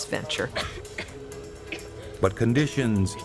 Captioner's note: coughing